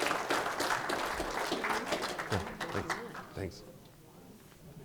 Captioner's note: audience applauding